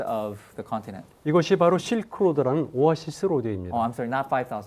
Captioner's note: speaking in Korean